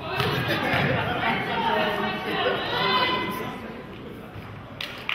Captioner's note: players hollering